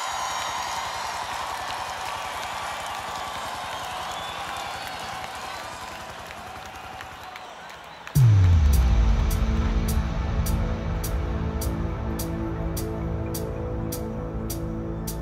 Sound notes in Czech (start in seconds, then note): 8.8 screaming